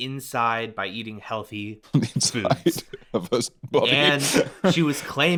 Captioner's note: laughing